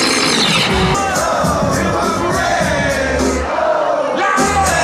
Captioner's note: crowd chanting